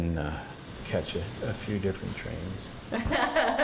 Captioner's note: laughs